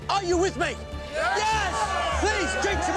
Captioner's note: crowd cheering